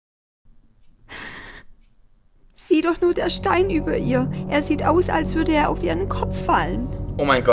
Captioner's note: gasp